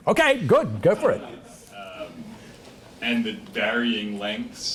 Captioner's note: laugh